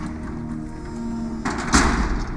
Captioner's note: door bangs shut